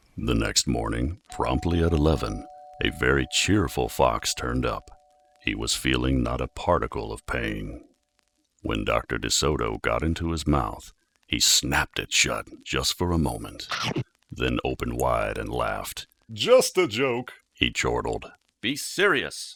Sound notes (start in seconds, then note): 1.3 doorbell rings; 13.5 chomp!